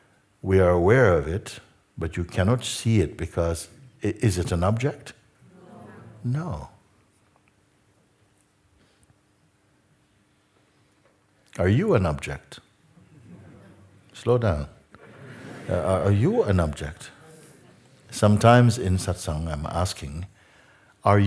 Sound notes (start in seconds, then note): 15.0 laughter